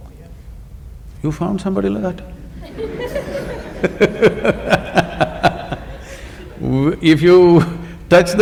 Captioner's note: laughter